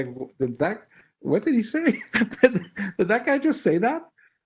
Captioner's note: laugh